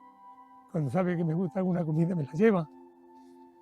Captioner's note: excited